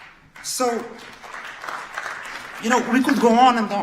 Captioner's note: audience claps